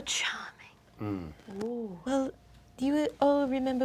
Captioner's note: Ikyulus grunts doubtfully